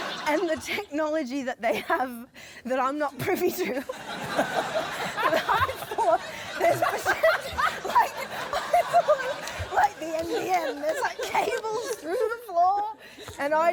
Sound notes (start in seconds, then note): 4.1 laughter; 7.4 laughs